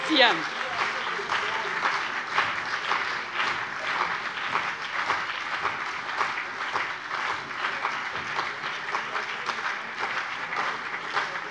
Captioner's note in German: Beifall CDU und BÜNDNIS 90/DIE GRÜNEN